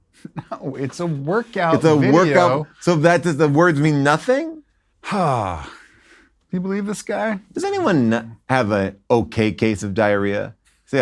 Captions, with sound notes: - (scoffs) No, it's a workout video. - It's a workout. - So that, does the words mean nothing? - (sighs) You believe this guy? - Does anyone have an okay case of diarrhea?